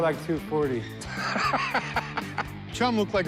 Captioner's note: laughs